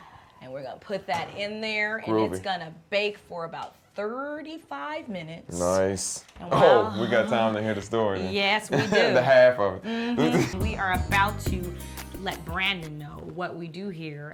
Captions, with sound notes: And we're gonna put that in there. - Groovy. And it's gonna bake for about 35 minutes. - Nice. Oh, we got time to hear the story then. - Yes, we do. - The half of it. - Mm-hmm. [laughter] [Upbeat music] - We are about to let Brandon know what we do here